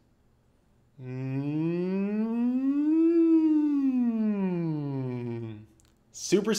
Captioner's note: makes a "Mmmm" sound that goes up then down